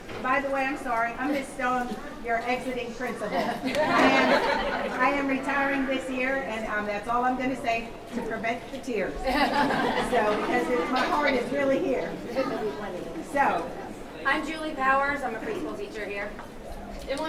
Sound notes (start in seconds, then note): 3.3 audience laughing; 9.2 audience chuckling